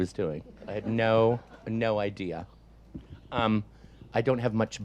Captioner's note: audience laughs